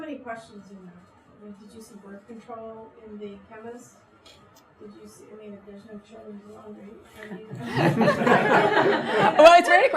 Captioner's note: everyone laughs